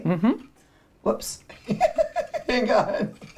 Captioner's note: laughs